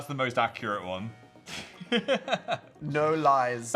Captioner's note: Phil laughs